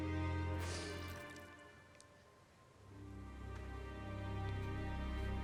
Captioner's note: Celine inhales sharply